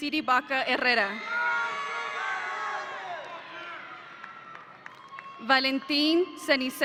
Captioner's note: audience applauding